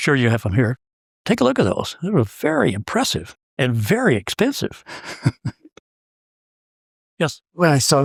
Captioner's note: laugh